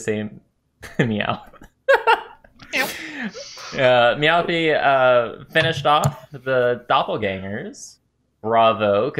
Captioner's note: laughter